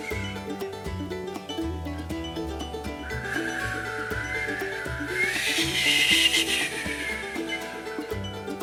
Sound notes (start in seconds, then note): 5.1 wind blows strongly